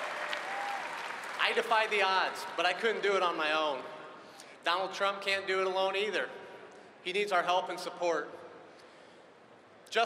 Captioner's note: cheering and applause